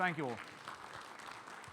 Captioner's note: audience applauds